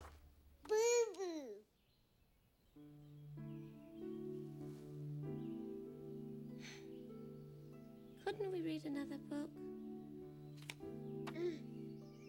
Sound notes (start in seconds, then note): 6.6 sighs